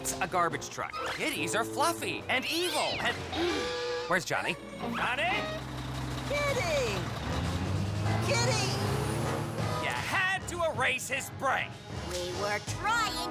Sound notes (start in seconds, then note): 3.3 gasps